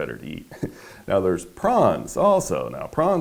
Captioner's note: chuckling